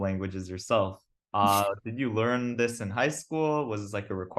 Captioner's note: laughs